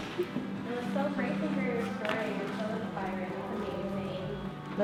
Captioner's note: speaks off the mic